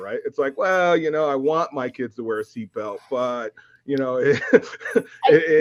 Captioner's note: laughs